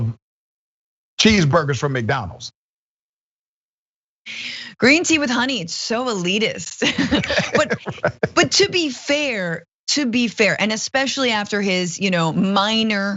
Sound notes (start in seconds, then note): 6.8 laugh